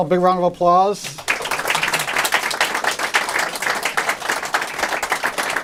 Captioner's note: applause